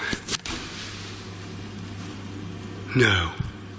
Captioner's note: thumping